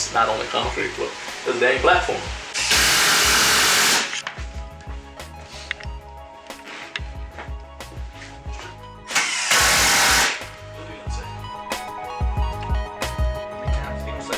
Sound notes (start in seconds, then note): 2.5 drill whirring; 4.3 instrumental music; 9.0 drill whirring; 11.1 instrumental music